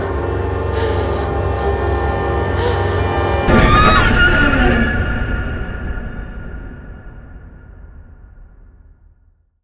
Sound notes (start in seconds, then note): 0.0 scared breathing; 3.4 screams; 3.6 suspenseful music